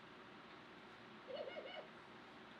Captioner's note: birds coo